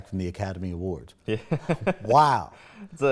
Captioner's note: laughs